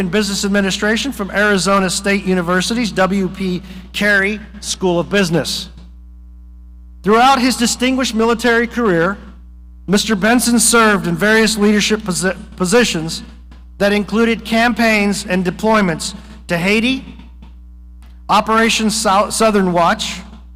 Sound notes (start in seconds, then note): none